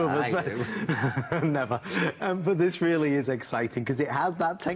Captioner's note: laughter